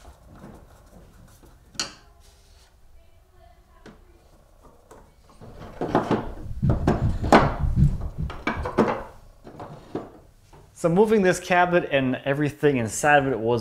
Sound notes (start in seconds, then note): 0.2 tool clinking; 5.4 tools thumping